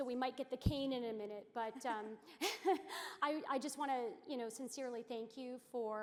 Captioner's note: laughter